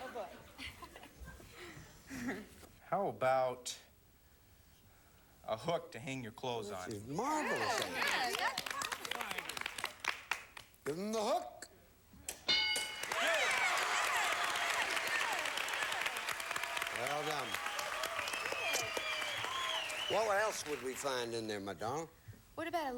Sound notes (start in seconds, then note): 0.0 audience laughing; 12.9 audience applauding